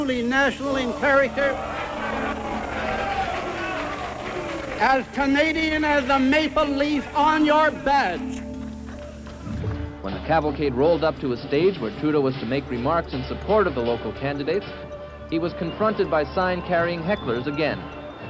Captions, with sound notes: and truly national in character-- [crowd jeering] As Canadian as the maple leaf on your badge. Reporter:When the cavalcade rolled up to a stage where Trudeau was to make remarks in support of the local candidates, he was confronted by sign-carrying hecklers again;